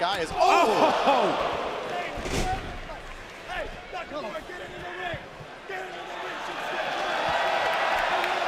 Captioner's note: cheers and applause